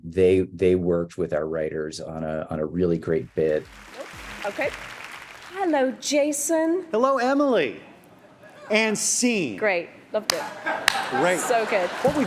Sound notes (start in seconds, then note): 3.1 audience claps